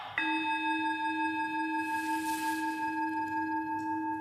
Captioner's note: sound of a bell struck